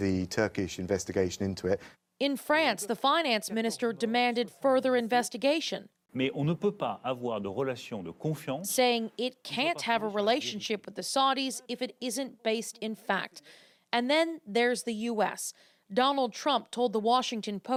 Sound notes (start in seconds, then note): 12.3 speaking French